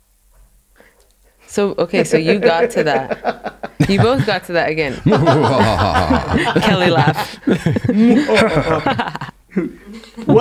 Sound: laughing

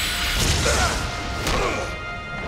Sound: grunting

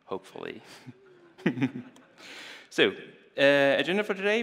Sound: audience chuckles

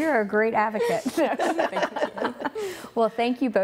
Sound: laughing

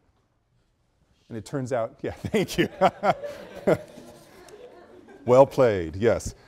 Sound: students laugh

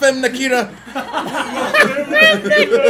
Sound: laugh

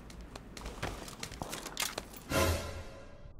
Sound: footsteps

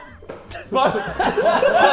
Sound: Sidemen laughing

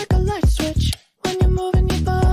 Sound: click

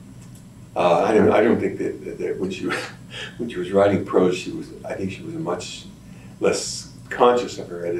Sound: laughs

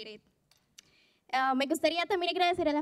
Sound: non-english speech

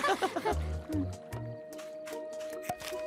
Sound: both laughing

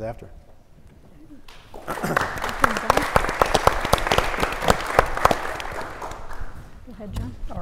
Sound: applause

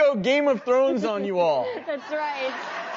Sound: giggling

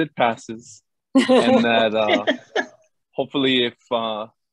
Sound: laugh

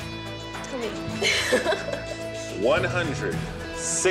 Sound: all giggling

